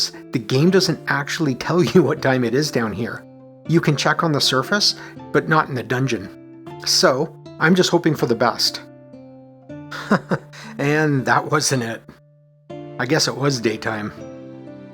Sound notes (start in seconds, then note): 9.9 chuckles